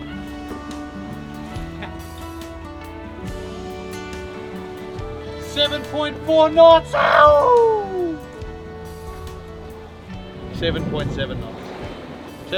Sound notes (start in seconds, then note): 8.8 screams excitedly